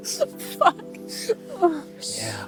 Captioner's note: both giggling; sighs